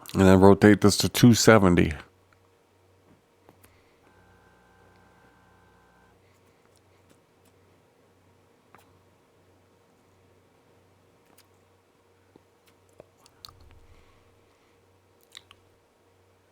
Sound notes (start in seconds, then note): 3.6 silence